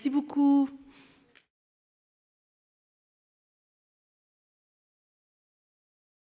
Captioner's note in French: silence